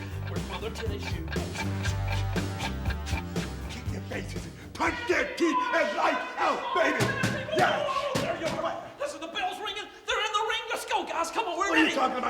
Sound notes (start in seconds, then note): 1.7 clock ticking; 1.7 rock music